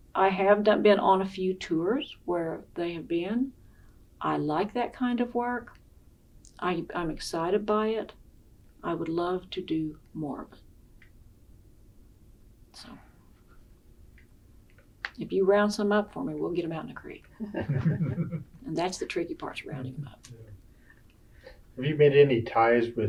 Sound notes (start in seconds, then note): 17.4 laughter